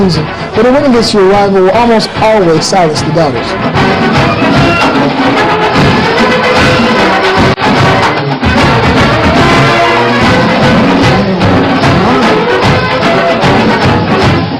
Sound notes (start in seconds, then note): 2.7 music, crowd cheering